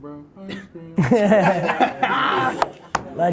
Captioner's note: laughs